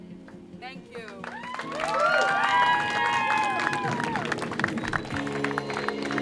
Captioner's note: cheers and applause; applause